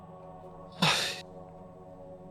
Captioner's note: sighs